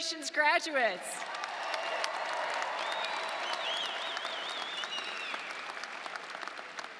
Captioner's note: audience cheering and applauding